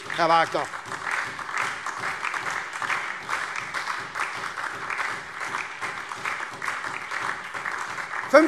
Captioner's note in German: Beifall SPD und DIE LINKE